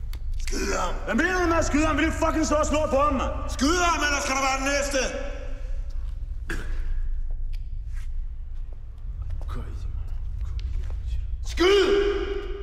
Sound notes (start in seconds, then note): 6.4 coughs; 9.2 mutters